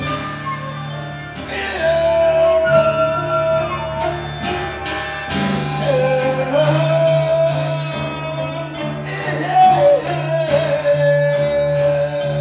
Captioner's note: humming